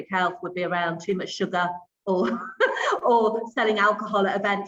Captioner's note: laughs